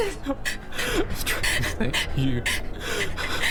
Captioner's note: whispering